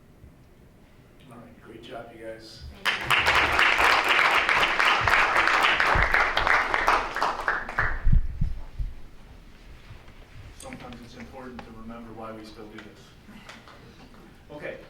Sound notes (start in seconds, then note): 2.8 audience members clapping